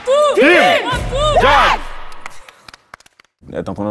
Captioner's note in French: applaudissements